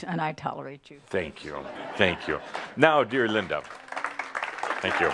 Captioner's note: audience applause; some chuckles